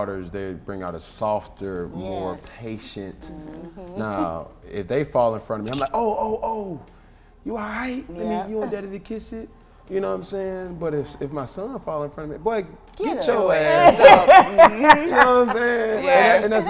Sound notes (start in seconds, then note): 13.4 all laughing